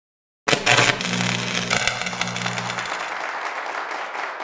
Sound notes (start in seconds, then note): 0.5 static sounds; 2.7 clapping